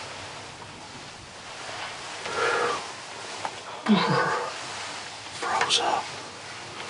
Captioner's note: whispering